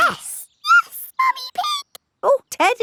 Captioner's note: in high-pitched voice